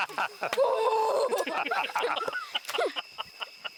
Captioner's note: laughing; grunting